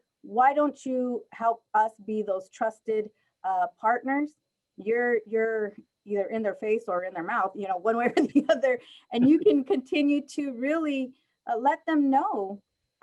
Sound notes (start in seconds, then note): 8.1 laughter